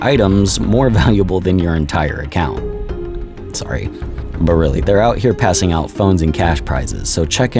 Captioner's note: sizzle